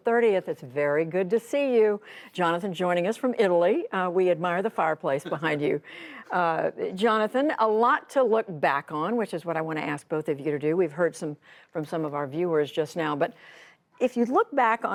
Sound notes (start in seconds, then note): 5.2 laughter